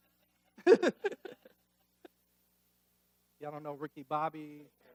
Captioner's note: laughing